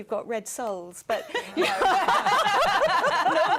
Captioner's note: laughter